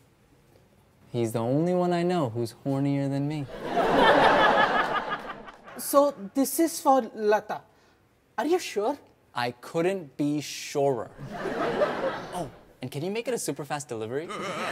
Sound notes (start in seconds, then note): 3.5 audience laughs; 14.3 audience laughs